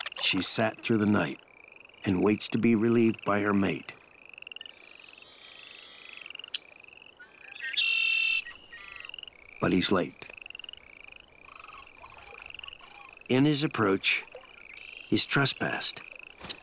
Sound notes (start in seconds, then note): 0.0 birds twittering; 5.9 bird calling